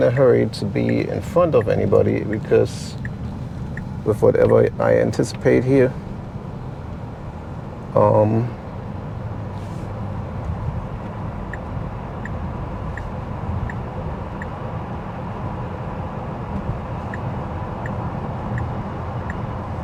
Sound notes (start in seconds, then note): 7.4 car engine